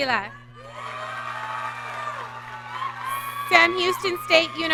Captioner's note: audience cheering